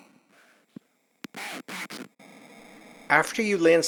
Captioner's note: computer Voice